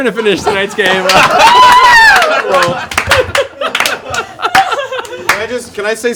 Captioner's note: laughter